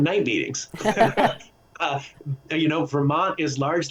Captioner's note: laughing